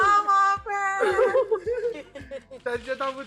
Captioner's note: excited